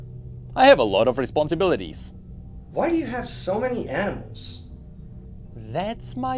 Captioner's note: confused